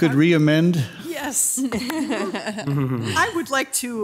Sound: members softly chuckling

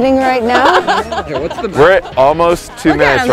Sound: bikers laugh

